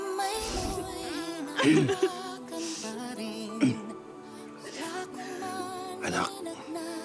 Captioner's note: cristine sobbing